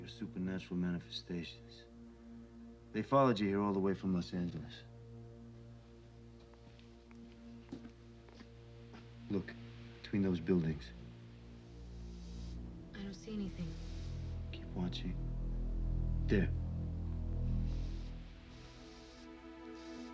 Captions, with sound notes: your supernatural manifestations. They followed you here all the way from Los Angeles. Look, between those buildings. (steam hissing) - I don't see anything. - Keep watching. There. (eerie music)